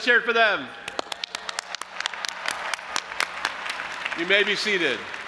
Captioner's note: audience applauding and cheering